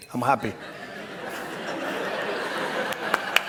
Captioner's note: laughter; applause